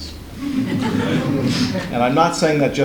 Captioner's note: laughs